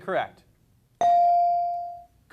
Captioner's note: beep